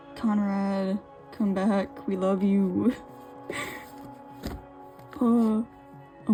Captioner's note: laughs